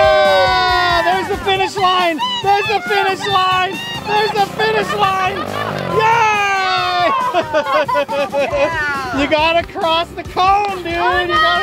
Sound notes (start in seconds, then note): 0.0 cheers; 7.2 laughs